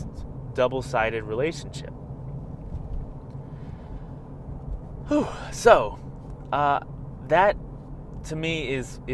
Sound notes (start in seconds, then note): 3.4 deep breath